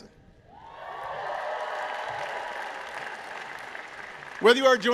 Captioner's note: applause